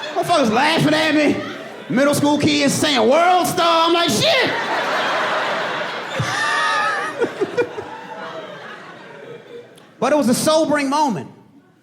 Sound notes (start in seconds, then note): 1.0 laughs